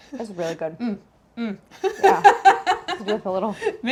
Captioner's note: laughs